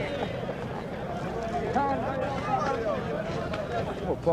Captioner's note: people talking